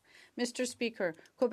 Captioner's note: speaking French